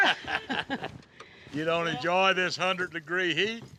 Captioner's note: everyone laughs